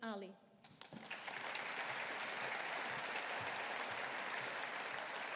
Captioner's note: audience applauding